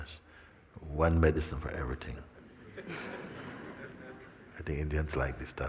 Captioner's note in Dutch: gelach